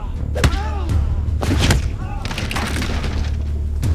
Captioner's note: thudding